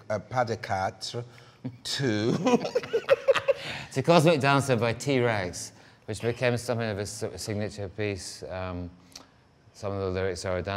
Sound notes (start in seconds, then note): 2.3 both laugh